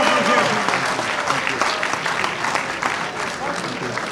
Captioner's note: audience applauds